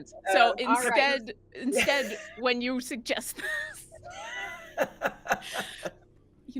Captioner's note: laughs